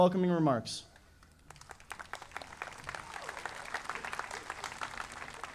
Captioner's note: audience applauding